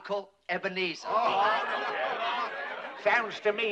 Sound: discontented clamor

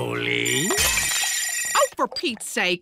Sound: rings

